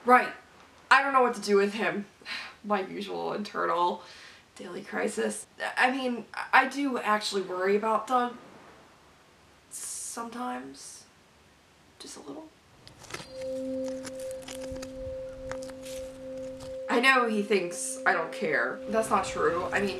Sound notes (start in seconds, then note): 12.8 rocks and dirt shuffling